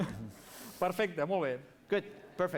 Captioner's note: non-english speech